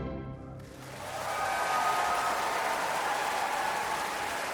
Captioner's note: audience claps